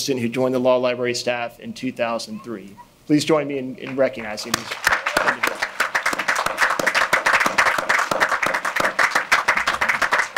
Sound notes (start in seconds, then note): 3.8 audience applauding; 4.3 speaking faintly